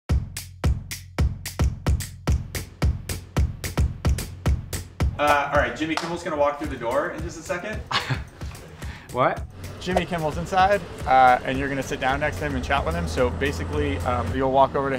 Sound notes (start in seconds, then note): 0.0 upbeat pop music; 7.8 chuckles